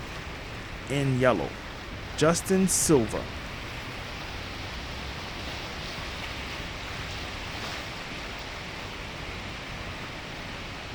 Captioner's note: water rushing